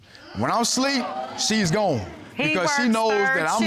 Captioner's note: audience gasps